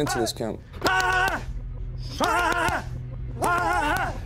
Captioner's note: both grunting